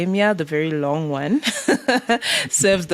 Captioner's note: laughing